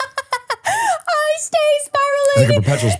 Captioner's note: person laughing